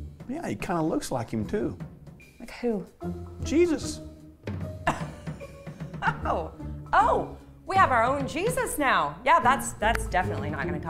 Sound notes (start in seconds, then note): 4.8 laughs